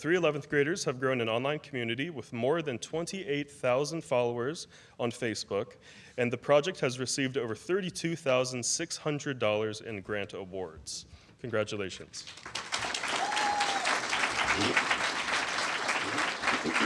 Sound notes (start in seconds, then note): 15.0 applause